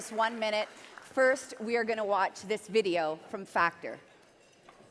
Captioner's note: cheering and Applause